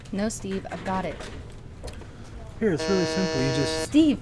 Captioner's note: buzz sound